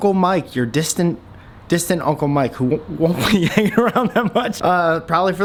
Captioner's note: laughs